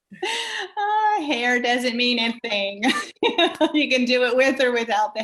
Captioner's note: laughs; laughs